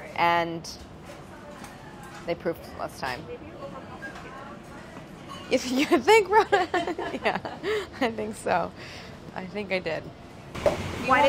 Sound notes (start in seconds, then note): 6.4 laughing